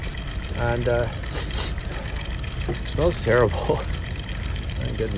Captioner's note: sniffs